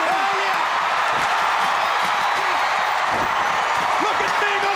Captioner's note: crowd cheering